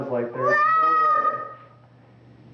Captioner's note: sound of child playing with toys